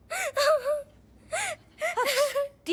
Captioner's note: crying